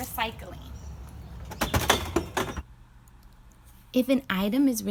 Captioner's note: litter dropping into bin